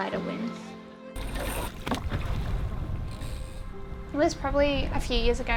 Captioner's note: water spattering; mast clinking